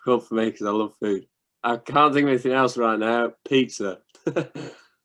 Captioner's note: laughter